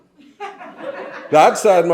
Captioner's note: audience laughs